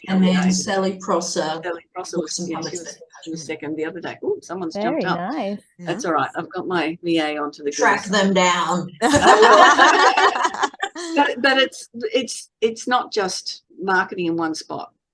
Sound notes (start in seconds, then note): 9.1 everyone is laughing